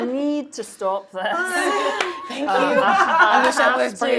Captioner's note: laughing